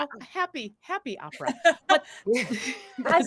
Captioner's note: laughing